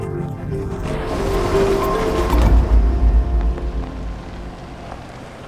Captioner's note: dumping/splashing; crunch of tires along dirt road